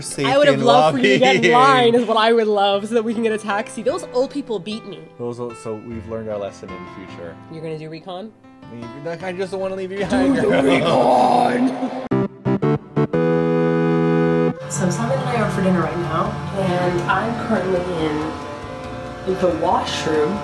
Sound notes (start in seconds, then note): 8.6 whining; 10.3 dramatic monstrous voice